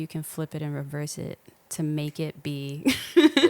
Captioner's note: laughing